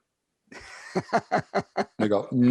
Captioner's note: laughs